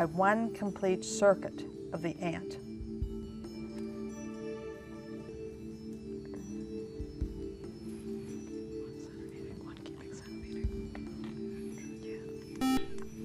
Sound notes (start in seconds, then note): 7.4 whispering; 10.9 buzzer